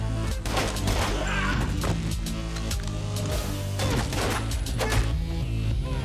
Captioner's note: gunshots firing; dramatic music continues